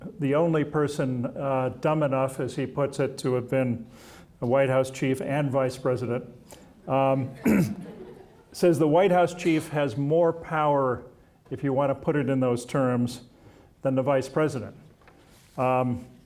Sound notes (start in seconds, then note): 7.1 audience chuckling